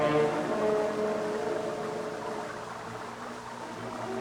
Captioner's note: water trickling